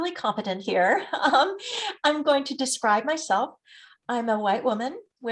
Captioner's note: chuckles